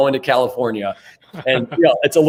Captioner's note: laughs